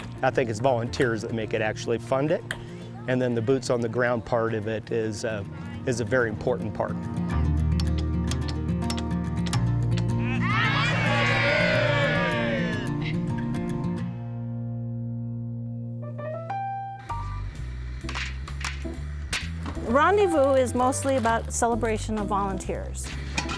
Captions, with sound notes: I think it's volunteers that make it actually fund it and then the boots on the ground part of it is a very important part. (people cheering) (jazz music) - Rendezvous is mostly about the celebration of volunteers.